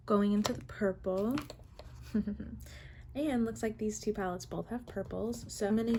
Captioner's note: giggle